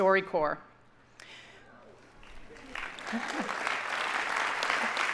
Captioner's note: audience applauding